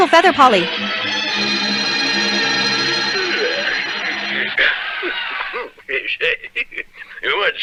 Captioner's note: crowd Roars